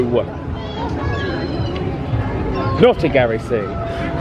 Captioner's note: indistinct chatters